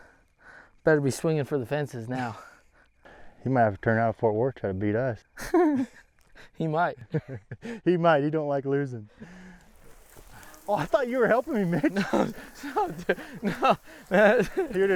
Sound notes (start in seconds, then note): 5.4 laughing; 10.1 laughing